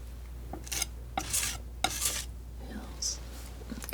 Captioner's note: scratching